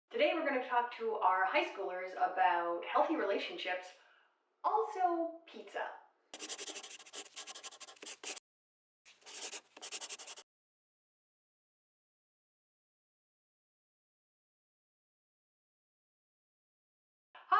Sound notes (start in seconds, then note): 6.5 scribbling; 11.1 silence